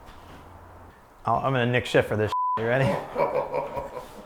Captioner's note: beep